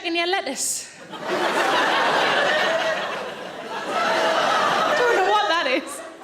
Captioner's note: audience laughing